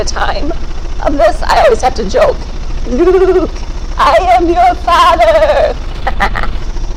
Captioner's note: laughs